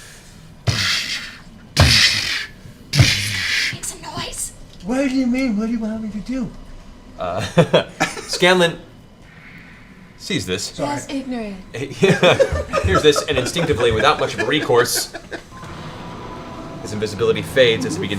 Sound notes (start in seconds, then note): 10.9 Michael Jackson voice; 11.9 laughter